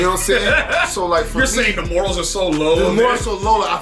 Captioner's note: laughing